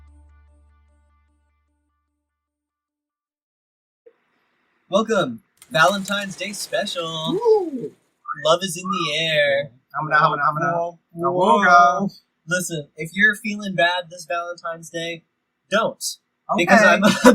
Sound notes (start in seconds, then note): 6.8 whistles